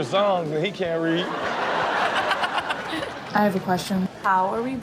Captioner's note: audience laughs